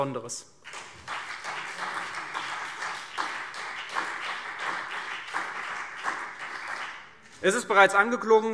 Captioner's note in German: Beifall CDU und BÜNDNIS 90/DIE GRÜNEN